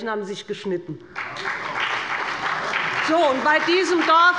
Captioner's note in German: Beifall bei dem BÜNDNIS 90/DIE GRÜNEN und der CDU